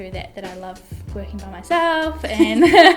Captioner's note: laughs